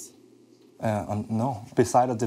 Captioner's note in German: englisch